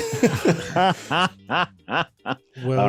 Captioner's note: both laughing